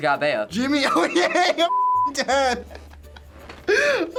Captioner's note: laughs